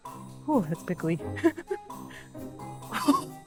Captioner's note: chuckles